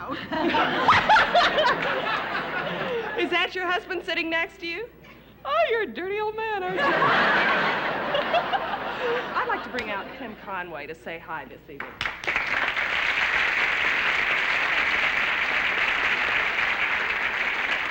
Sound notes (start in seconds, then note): 0.0 laughs; 6.6 laughter; 11.8 applause